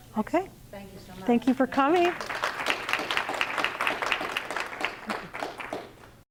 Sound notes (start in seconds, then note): 1.8 clapping